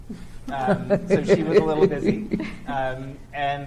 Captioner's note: chuckles